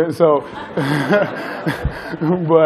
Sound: laughter

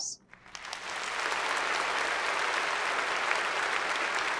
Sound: applause

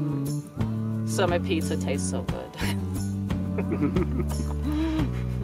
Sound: chuckles

